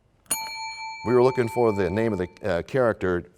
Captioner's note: bell rings, time expires